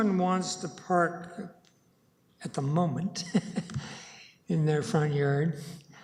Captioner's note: chuckles